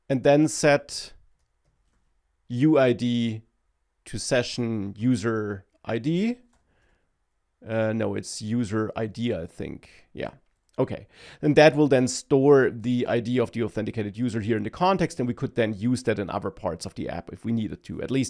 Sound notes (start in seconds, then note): none